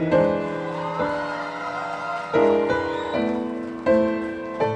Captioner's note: audience applauding; audience cheering